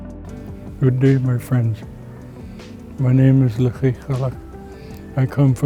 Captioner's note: speaking Lekwungen